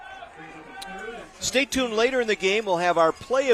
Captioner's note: applause